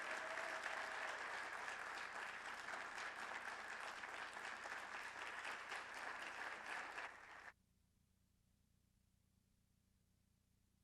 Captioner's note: applause